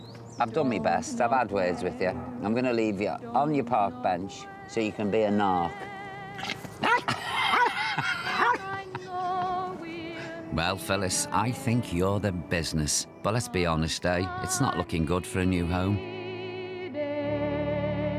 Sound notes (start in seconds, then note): 6.4 laughs; 6.4 barks